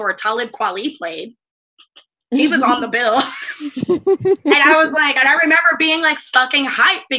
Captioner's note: laughter